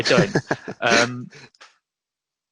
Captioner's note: laughs